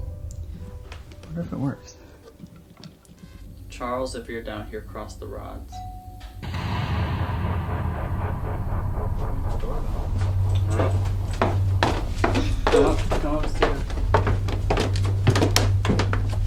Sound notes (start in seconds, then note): 5.8 doorbell ringing; 6.4 crashing music; 9.2 footsteps thumping